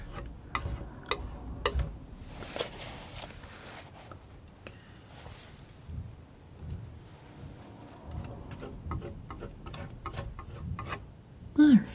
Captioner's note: tapping